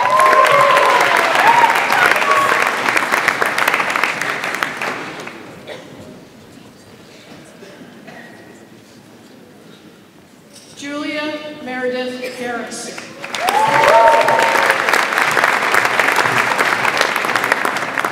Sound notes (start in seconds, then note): 0.0 audience applauds; 13.1 audience applauds